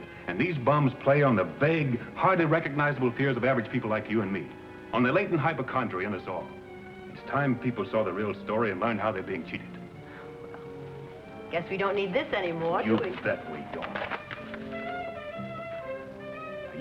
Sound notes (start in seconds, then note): 12.7 paper shredding